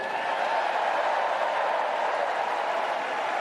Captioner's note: applause